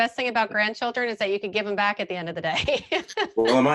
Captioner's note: laughing